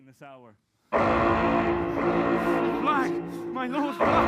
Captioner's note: alarm sounding